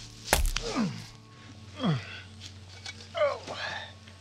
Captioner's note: Dave grunting